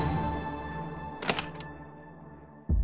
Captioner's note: door opens